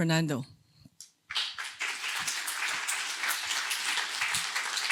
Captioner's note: applause